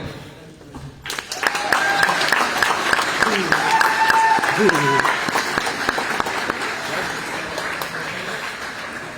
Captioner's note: applause